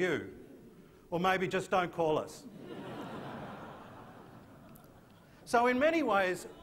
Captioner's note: laughter